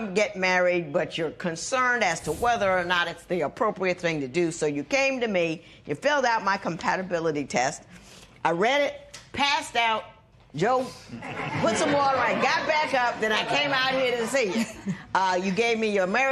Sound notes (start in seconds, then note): 11.1 laughter